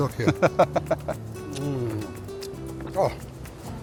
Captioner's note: laughs